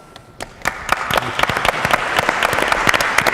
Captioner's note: applauding